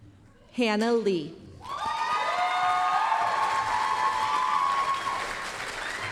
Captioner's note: applause, cheering